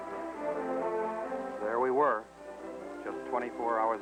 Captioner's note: male Voice